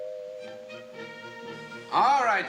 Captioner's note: ringing continues